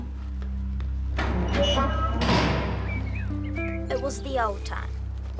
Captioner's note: ominous music; door squeaking